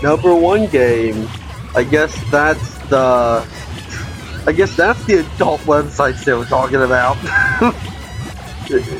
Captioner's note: chuckles